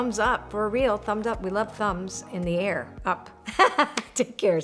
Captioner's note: laughs